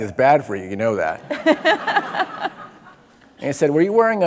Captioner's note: laughing